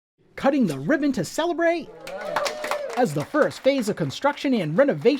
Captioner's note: clapping